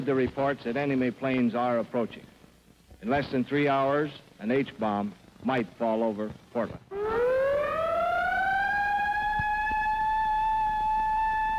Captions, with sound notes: you've heard the reports that enemy planes are approaching. In less than three hours, an H bomb might fall over Portland. (siren wails)